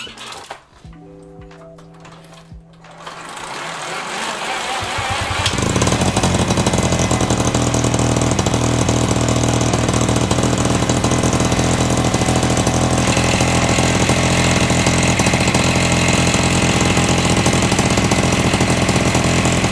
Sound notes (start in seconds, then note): 4.6 extremely obnoxious 2-stroke motor sounds